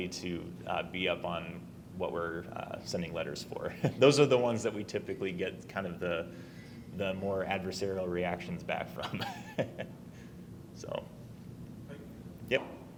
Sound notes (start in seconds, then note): 9.0 chuckles